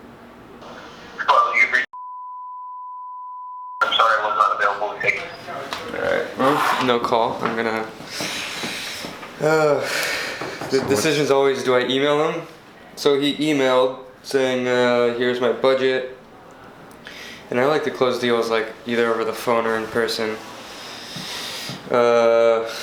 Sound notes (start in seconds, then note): 2.0 beep; 9.4 sighs